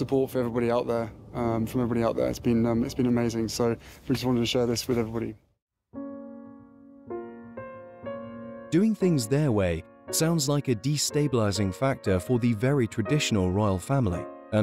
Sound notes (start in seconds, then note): 5.9 gentle music; 8.8 voiceover